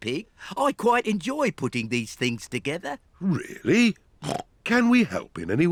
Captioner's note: snorts